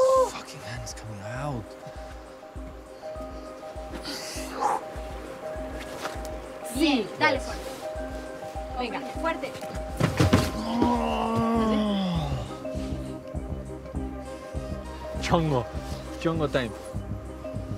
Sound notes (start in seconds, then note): 4.1 exhales sharply; 10.5 groans